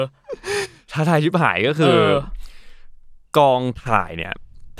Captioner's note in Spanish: risa